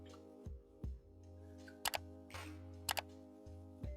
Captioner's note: clicking